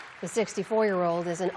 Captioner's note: applause